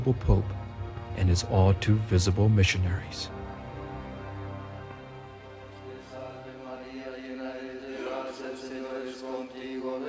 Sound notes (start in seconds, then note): 6.1 chanting